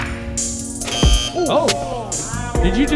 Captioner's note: buzzer